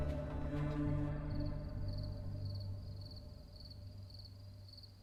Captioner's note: crickets chirping